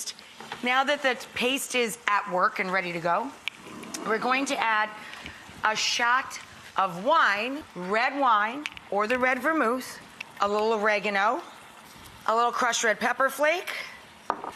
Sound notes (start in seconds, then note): none